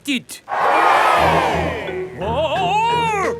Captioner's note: crowd cheers